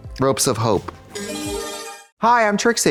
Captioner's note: bright chime